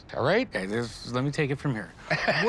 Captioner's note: chuckles